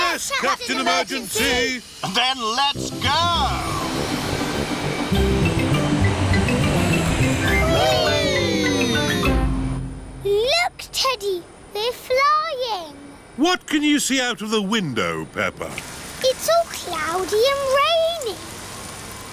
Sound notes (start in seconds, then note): none